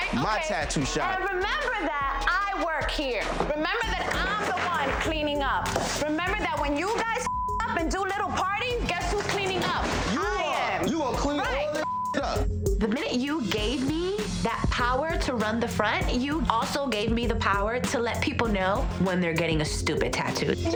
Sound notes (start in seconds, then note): 7.2 beeps; 11.7 beeps; 13.0 tense music